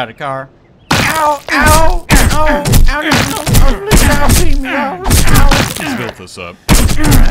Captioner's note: POLICE VIOLENCE sfx